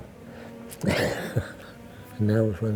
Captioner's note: chuckles